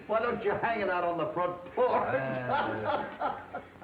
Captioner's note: laughs